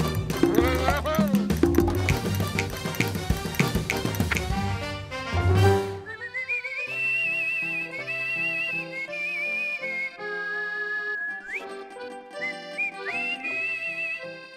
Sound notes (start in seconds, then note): 1.9 snaps; 5.9 whistling